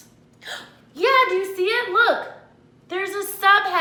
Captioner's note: gasps